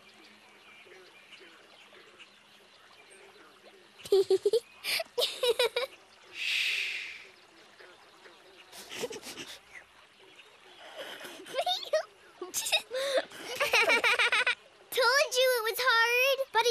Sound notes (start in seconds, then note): 1.8 birds chirp, wildlife chatters; 4.0 giggling; 12.5 stifled giggles